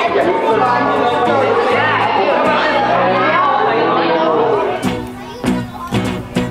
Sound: excited chatter

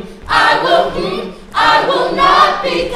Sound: humming

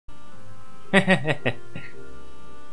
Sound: laughs

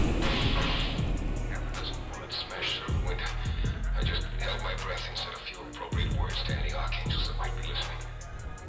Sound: tv audio

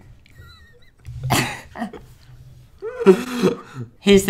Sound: laughter

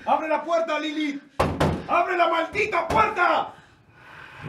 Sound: door knocks

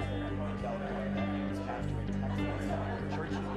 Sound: indistinct chatter

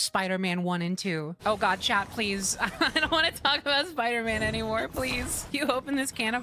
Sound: laughing

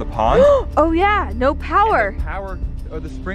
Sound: gasps

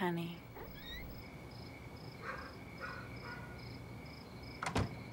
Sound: dog barking

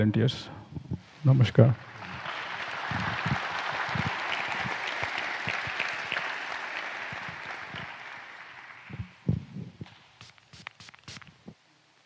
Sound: applause

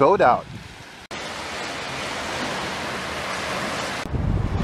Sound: water splashing

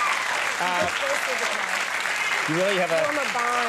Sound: audience cheering

